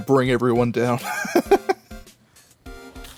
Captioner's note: wheezing giggle